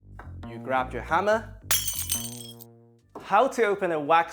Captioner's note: glass breaking